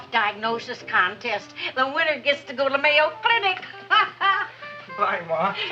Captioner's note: laughs